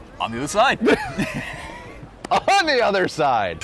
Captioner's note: laughing